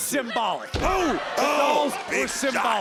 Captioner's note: Booker exclaims